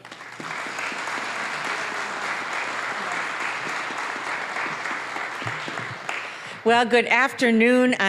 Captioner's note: applause